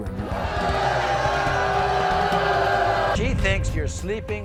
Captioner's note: audience oohs